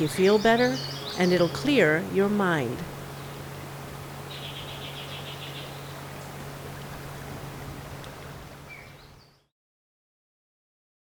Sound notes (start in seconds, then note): 5.3 birds chirping